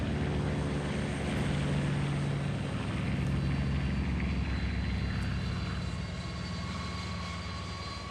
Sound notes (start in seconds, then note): 0.0 airplane engine roaring; 4.8 suspenseful music